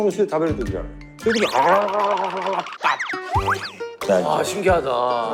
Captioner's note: sound of it becoming spicy